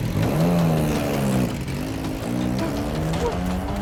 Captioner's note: engine revs